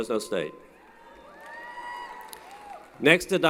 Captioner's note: applause & Cheering